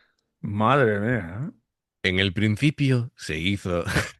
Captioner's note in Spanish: risas